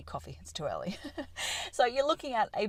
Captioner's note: laughter